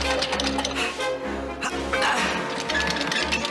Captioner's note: gasps